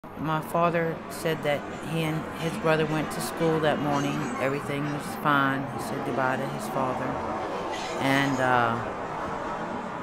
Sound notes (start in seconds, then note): 0.0 traffic noise